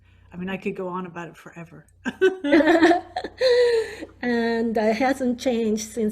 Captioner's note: laughing